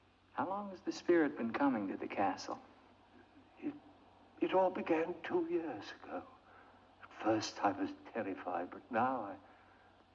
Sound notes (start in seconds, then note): none